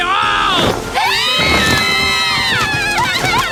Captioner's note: all scream in unison